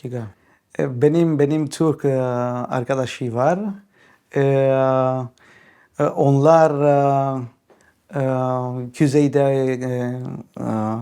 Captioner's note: in Turkish